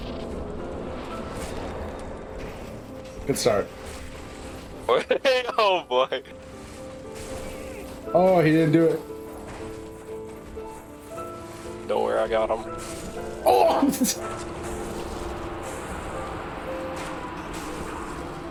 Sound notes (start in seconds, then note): 4.9 laughs; 13.4 grunts in agony